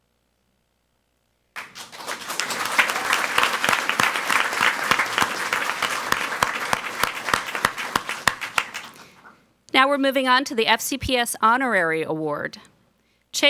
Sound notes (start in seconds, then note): 1.5 people clapping